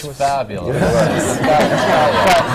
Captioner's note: laughter